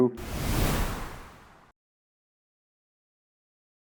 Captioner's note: air whooshing